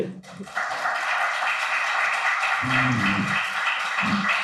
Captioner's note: audience applauds